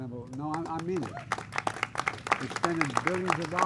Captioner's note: applause